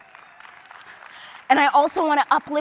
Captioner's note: applause